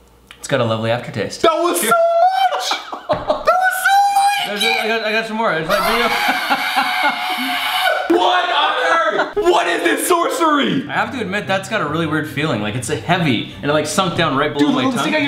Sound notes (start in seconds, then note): 5.6 screaming